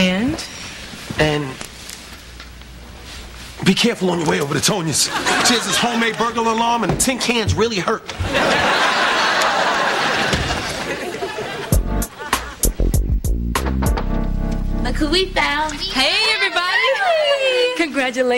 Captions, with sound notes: AND? AND... BE CAREFUL ON YOUR WAY OVER TO TONIA'S. SHE HAS THIS HOMEMADE BURGLAR ALARM, AND THE TIN CANS REALLY HURT. OHH. [KNOCK ON DOOR] LOOK WHO WE FOUND. HEY, EVERYBODY.